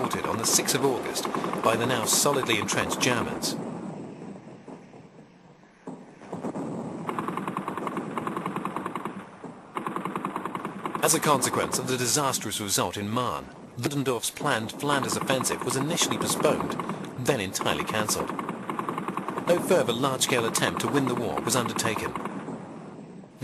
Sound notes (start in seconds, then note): 5.9 heavy artillery booming; 6.2 guns blasting